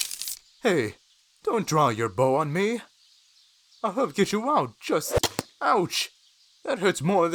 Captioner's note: arrow fires and impacts